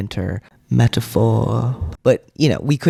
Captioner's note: echoing